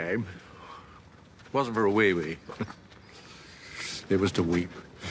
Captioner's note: he chuckles, softly